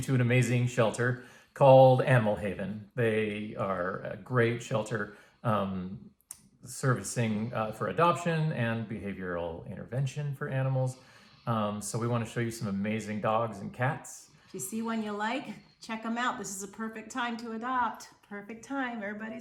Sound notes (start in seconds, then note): none